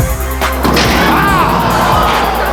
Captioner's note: crowd